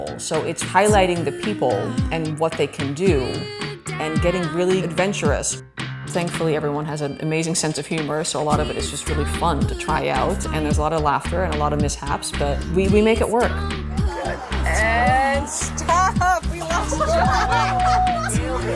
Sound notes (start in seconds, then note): 16.5 laughter